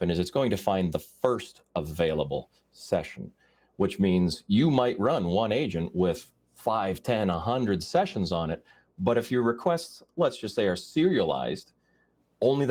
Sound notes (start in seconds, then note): none